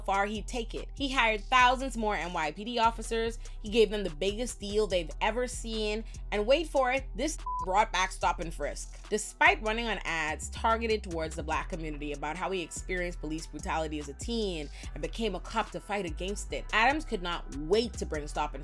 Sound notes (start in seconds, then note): 7.4 beep